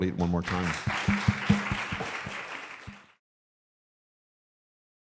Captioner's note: applause